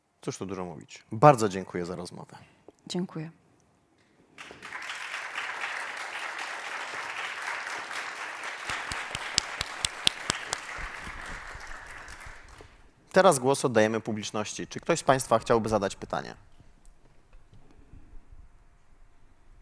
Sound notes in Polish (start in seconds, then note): 4.3 oklaski